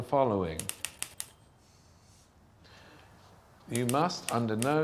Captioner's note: typewriter clacking